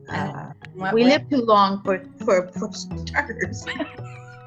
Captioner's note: laughs